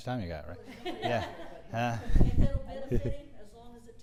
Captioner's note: laugh